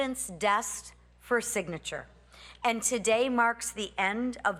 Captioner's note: none